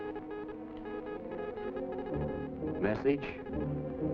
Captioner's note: machine beeping in Morse code